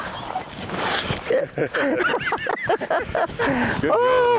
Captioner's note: laughing